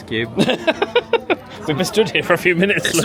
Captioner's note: laughs